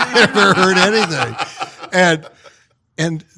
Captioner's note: all laughing